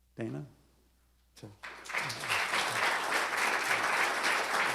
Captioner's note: applause